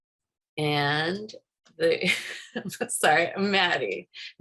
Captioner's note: laughs